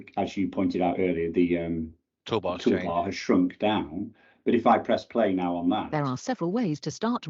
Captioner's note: computer speaks